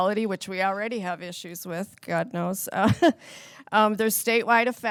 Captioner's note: laughs